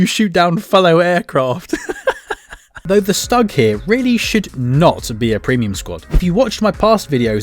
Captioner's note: laughing